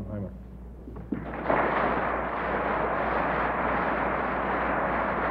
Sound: audience applauding

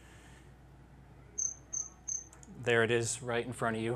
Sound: chirps

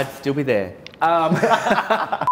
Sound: both laugh

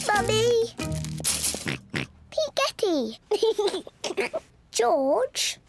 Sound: oinks; giggles

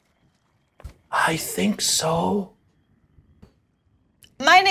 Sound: hoarse Voice

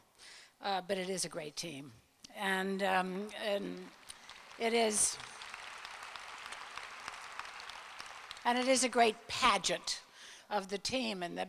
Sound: applause

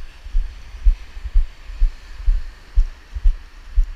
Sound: waves crashing

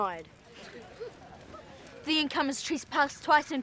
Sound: The Barbs laughing

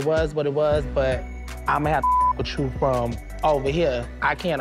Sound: beep

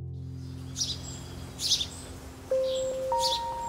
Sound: birds chirping; mellow piano music

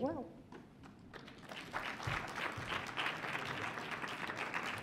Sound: audience claps

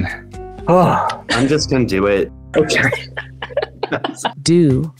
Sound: person laughs

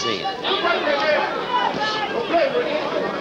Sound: crowd chattering

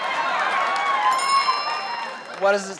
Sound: bell noise

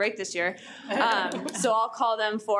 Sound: audience laughing

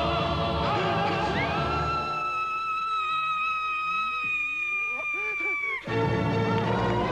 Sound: screaming, orchestra stops

